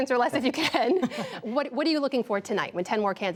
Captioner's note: laughter